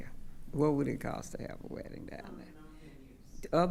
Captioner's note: speaking quietly